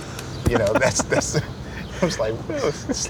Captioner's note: laughter